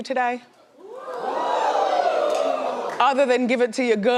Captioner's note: audience cheering